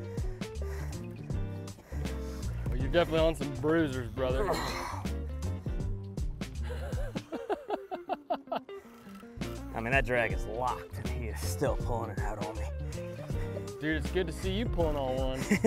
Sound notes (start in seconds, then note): 4.3 grunts; 4.9 laughs; 15.3 chuckles